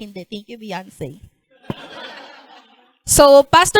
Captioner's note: laughter